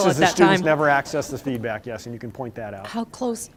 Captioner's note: laughter